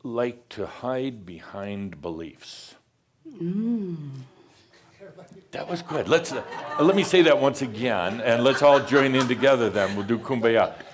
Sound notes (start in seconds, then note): 4.9 laughter